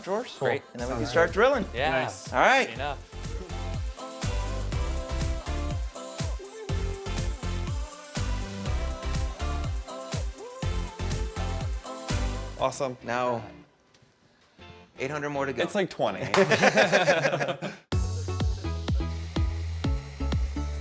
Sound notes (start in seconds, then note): 4.3 upbeat music; 16.3 all chuckles; 17.9 upbeat music